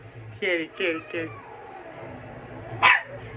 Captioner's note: growls; Ella barks